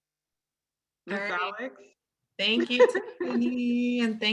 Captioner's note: laughs